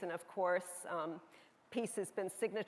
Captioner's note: none